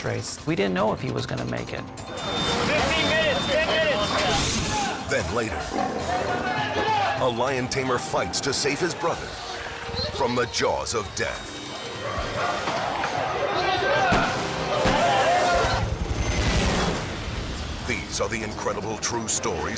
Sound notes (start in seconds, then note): 13.7 speaking in foreign language; 16.4 airplane roaring